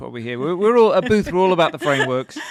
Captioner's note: laughing